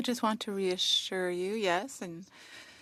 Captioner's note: speaking French